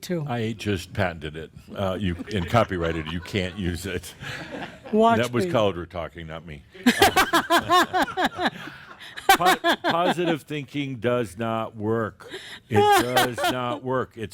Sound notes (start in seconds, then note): 2.0 more chuckles; 7.7 laughs